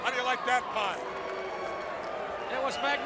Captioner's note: crowd cheering